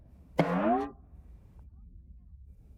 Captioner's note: boink!